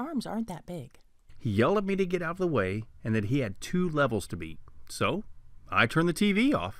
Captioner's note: man's voice